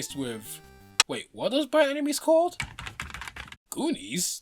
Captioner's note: typing